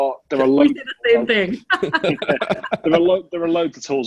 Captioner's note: all laughing